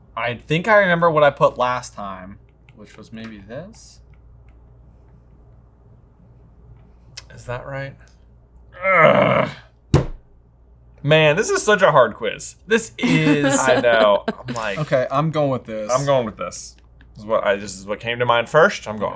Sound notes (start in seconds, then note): 8.7 groaning; 9.9 fist thumping table